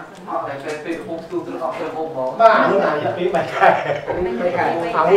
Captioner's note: chattering